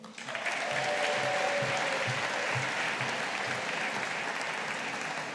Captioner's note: audience applauding